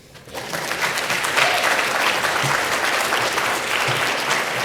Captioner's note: applause